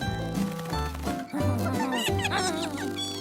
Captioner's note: giggling